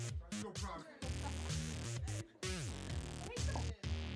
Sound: laughter

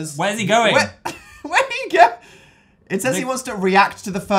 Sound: laughing

